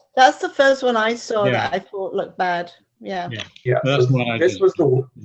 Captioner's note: laughing